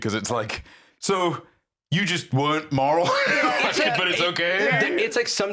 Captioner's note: laughs